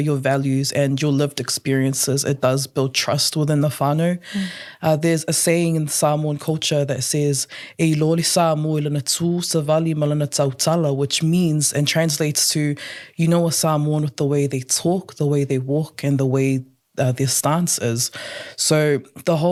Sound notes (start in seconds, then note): 8.9 speaks in Samoan